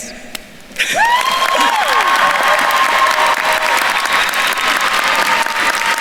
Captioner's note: attendees cheering and applauding